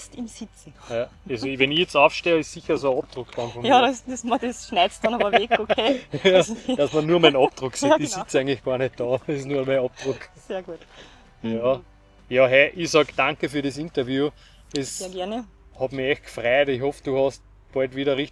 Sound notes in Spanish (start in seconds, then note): 8.0 Risas